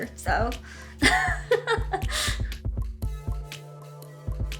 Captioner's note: laughs; light music